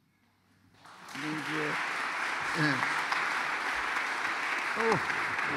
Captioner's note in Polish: <i>oklaski</i>